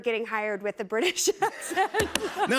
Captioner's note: laughter